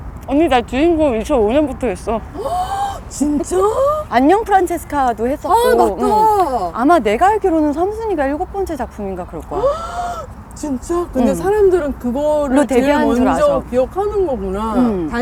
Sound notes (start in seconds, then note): 9.6 gasps